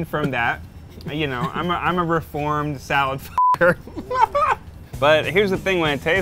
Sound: beep

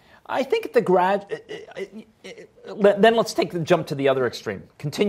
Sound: stammering

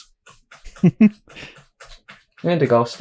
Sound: chuckles

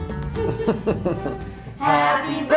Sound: chuckling

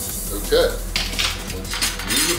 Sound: chopsticks clattering

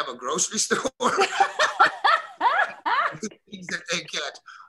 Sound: Felicia laughing

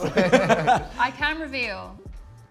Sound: both laugh

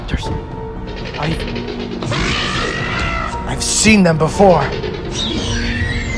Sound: raptor Sounds

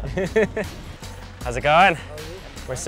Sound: chuckles

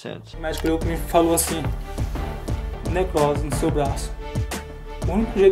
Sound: speaking foreign language

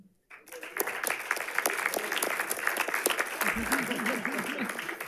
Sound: audience applauding

